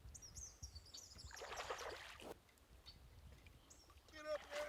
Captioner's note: birds chirping; water splashing